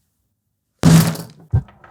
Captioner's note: whack; marbles rolling